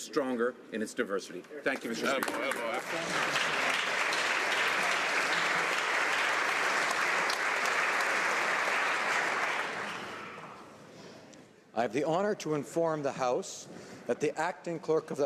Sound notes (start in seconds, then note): 5.9 some Applause